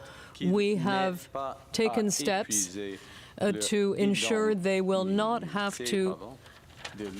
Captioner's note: speaking French